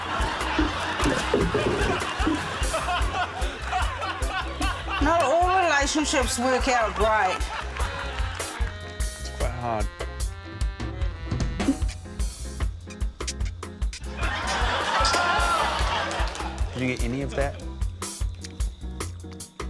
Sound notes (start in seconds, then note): 0.0 laughter; 11.7 pasta squeaks; 14.1 audience laughs, exclaims